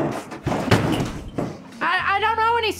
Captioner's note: slams head